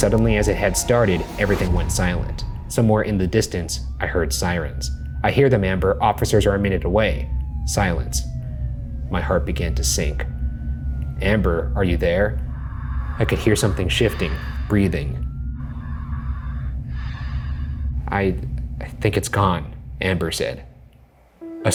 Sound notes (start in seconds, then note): 15.6 breathing